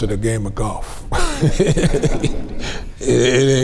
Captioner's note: group laughs